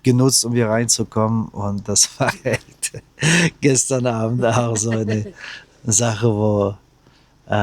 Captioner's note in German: gelächter